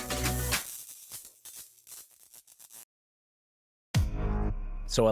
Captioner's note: upbeat music; electricity crackling